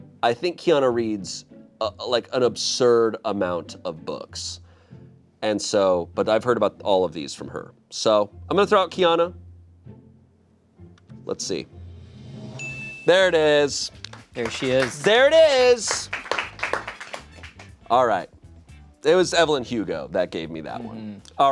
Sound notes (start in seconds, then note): 12.6 chime dings; 16.5 audience members clapping